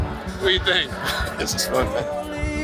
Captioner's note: pat